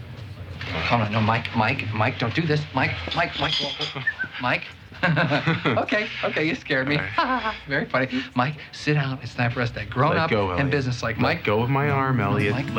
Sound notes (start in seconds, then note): 4.0 whistles